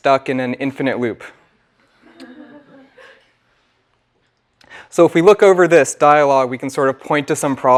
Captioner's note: laugh